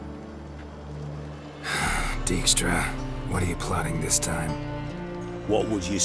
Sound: heavy sigh

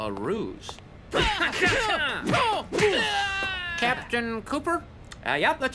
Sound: fighting sounds

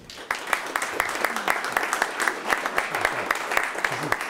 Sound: audience applause

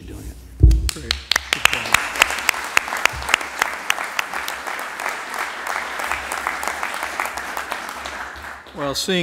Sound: applause

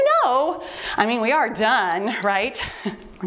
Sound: timer beeps

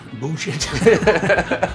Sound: laughing

